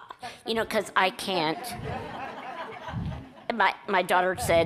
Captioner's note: audience laughs